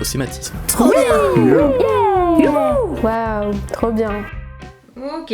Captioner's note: various cries of joy